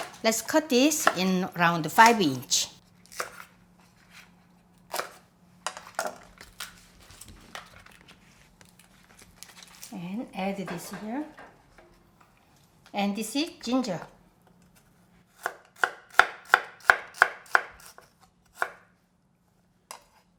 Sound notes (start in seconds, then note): 15.4 chopping